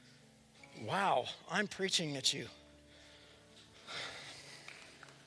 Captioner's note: applause